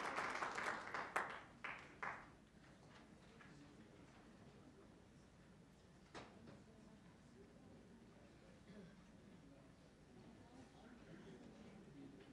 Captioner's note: applause